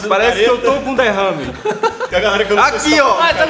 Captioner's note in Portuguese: Risos